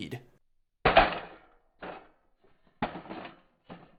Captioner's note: rifle clatters